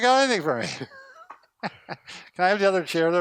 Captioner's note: laughter